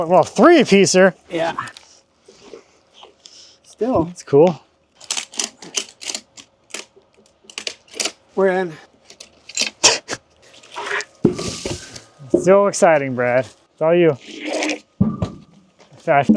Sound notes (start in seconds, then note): 5.0 ratchet buckle clicking; 10.9 log clunking; 14.6 log thudding